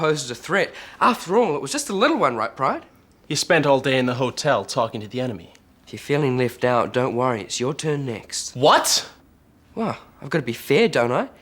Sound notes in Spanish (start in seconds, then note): none